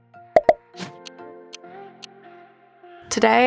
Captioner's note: gentle music; clock ticking